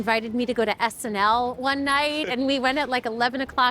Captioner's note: laughing